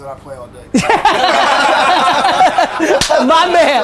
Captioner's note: group laughter